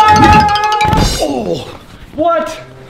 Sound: dad screams

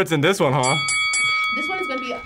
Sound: bell dings

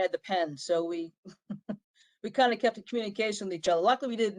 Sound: laughter

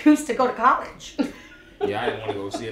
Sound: laughing

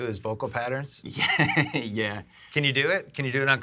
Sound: laughs

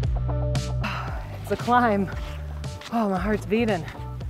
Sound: sighs

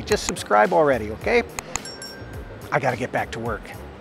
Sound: bell dings

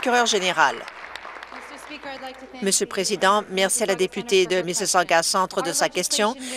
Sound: applause

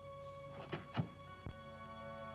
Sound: soft thump

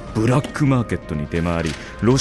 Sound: papers rustle

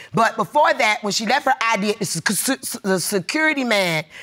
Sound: stammering

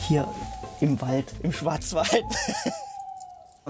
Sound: laughter, screech owls

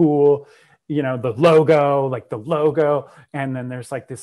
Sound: breath

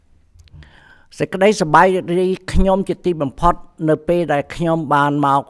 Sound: speaks in Khmer language

